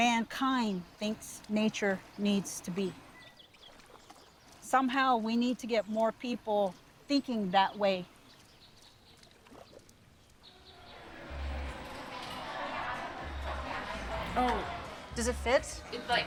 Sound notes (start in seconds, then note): 10.5 people talking in background